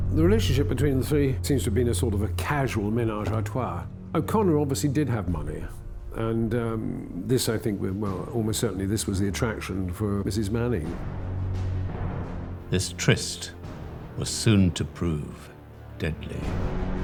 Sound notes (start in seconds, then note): 2.9 speaking foreign language